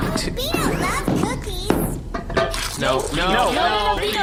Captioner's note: cookie-eating noises